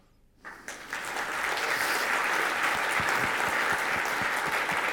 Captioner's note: audience applauds